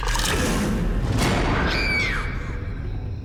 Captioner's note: woman screams